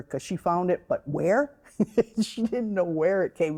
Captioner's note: chuckling